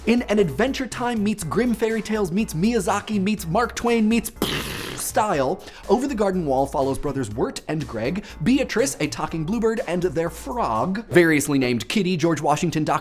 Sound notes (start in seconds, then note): 4.4 imitates explosion